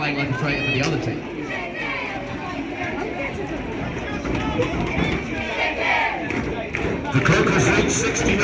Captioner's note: chicken chants